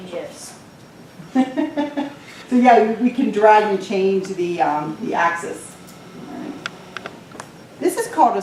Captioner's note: laughter